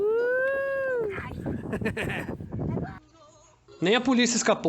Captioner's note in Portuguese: risos